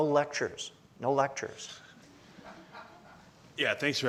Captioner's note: audience laughs